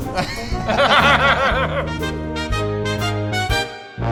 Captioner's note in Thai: เสียงหัวเราะ